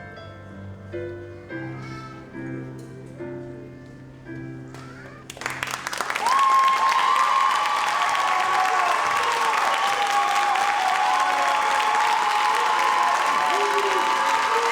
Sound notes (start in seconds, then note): 5.1 audience cheers and applauds